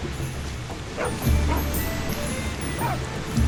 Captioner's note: dogs barking